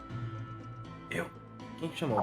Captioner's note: whispering